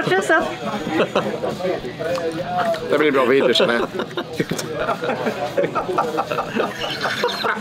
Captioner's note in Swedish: Skratt